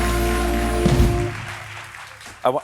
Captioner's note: cheers and applause